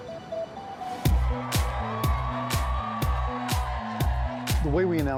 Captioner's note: crowd cheering